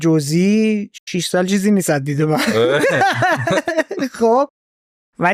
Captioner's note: laughs